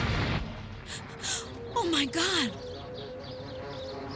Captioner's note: gasps